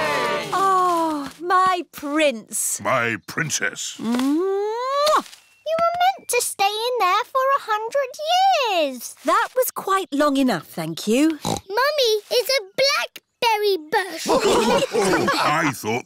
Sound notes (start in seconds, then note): 0.0 all cheering; 4.0 kisses; 11.4 snorts; 14.1 all laughing